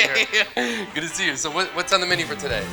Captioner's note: laughter